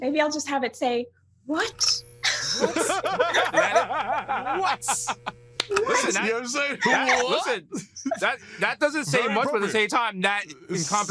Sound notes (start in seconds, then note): 2.2 laughter; 3.3 buzzing